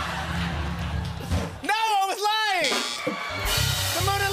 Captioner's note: laughter; buzzer